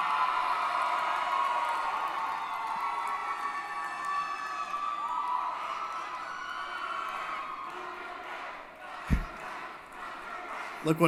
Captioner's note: applause & Cheering